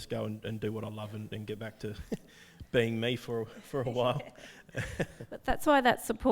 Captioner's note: laughs